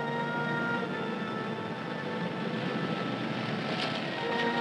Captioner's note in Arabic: نفخ البوق